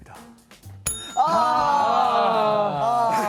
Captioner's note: ring~